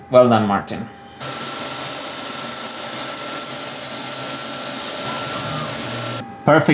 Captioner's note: CNC machine noises